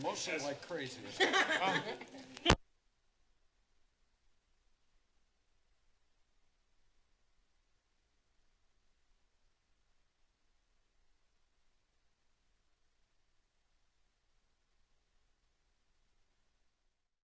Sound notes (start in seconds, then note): 1.0 laughter; 2.4 silence